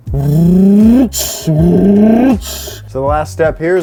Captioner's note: imitates car engine